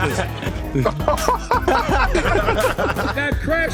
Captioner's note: laughing